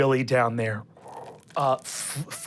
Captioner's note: ice crackles